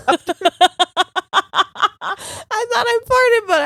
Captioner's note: both laughing